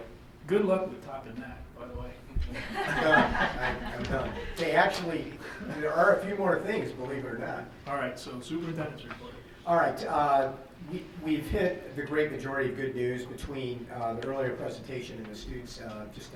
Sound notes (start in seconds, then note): 2.5 group laughs